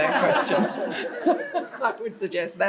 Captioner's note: audience laughs